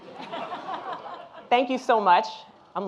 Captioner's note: audience laughing